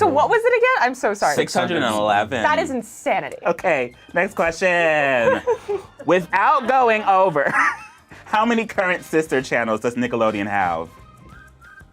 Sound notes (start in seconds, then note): 5.2 laughs